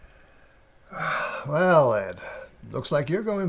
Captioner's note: sighs